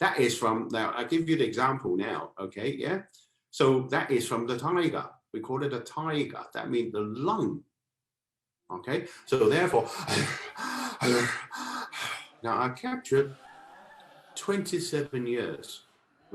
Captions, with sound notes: That is from now I'll give you an example now. That is from the Tiger, we call it the Tiger, that means the Lung [Heavy panting] I captured 27 years